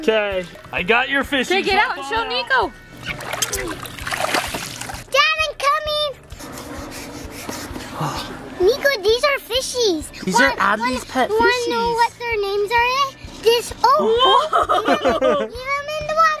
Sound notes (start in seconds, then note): 6.4 heavy breathing